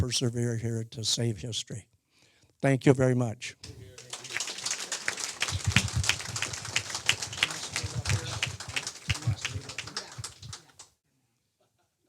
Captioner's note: audience applause